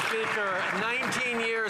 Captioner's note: some Applause